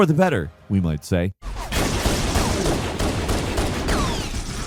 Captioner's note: gunshots blasting